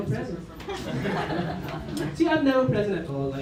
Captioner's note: laughter